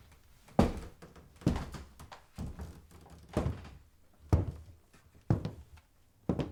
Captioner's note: footsteps on creaking floorboard